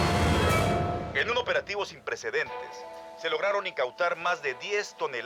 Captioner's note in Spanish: voz en la tv